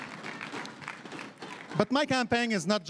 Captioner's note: chanting